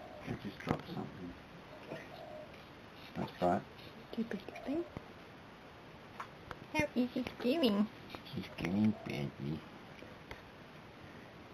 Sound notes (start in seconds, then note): 2.6 sarcastically; 7.1 silly voice